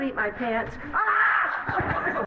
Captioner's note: shrieks